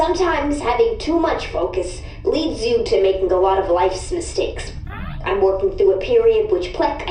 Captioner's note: C-53 hums thoughtfully